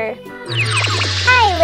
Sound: magical zap

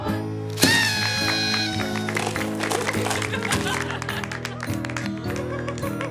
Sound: party horn, laughter, applause

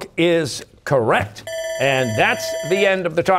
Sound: bell ringing

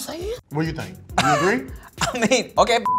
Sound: laughs

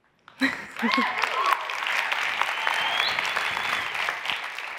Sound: audience applauds

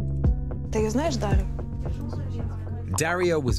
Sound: speaking in foreign language

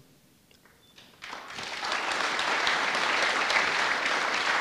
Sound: audience applauding

